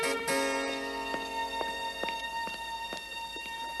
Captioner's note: footsteps